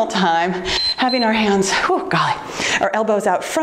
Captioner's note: timer beeps